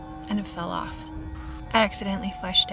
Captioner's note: static crackles